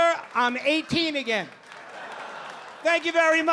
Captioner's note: audience laughing